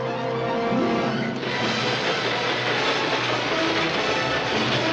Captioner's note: train rumbling